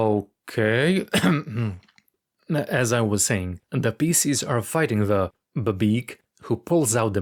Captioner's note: clearing throat